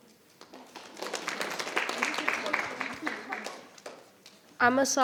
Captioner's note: audience applauding